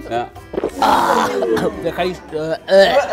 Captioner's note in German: Schlucken, Würgen, Uh-Rufe; Würgen